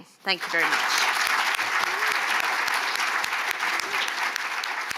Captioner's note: audience clapping